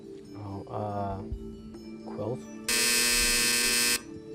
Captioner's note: buzzer